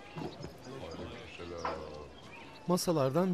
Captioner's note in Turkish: Hep bir ağızdan